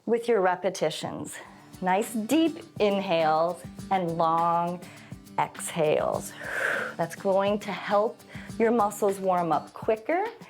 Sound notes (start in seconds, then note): 6.2 exhales